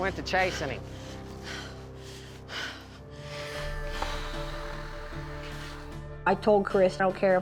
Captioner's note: panting, breathing heavily